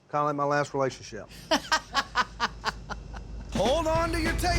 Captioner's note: laughter